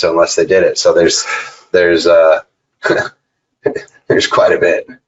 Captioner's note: laughs